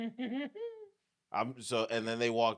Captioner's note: laughing